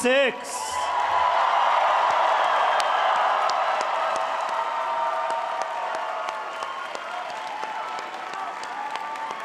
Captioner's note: cheering and applause